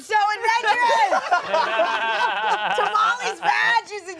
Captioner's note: everyone laughs